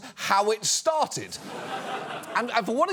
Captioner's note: studio audience laughs